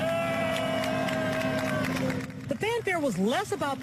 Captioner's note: cheering and Applause